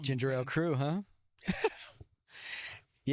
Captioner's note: laughing